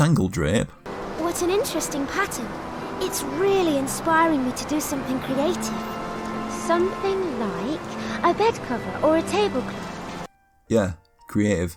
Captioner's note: in-game audio